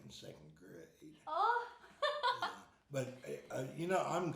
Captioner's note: laughing